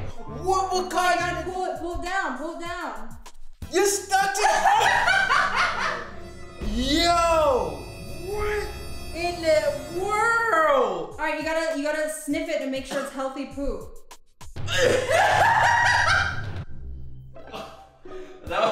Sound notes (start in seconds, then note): 4.4 woman laughs; 14.6 man chokes; 14.7 woman laughs